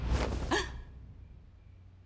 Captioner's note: gasp